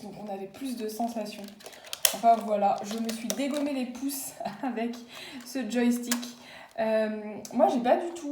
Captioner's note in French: Rires